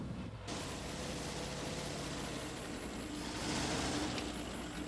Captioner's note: car engines revving